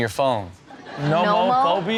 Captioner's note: audience laughs